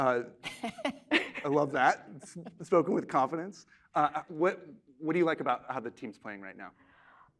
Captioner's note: laughter